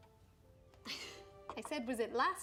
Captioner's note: chuckle